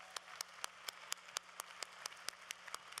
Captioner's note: applause